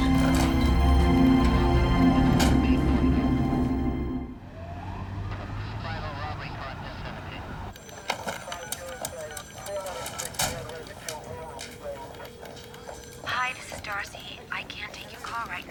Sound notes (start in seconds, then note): 0.0 suspenseful orchestral music; 5.4 radio chattering; 11.9 line ringing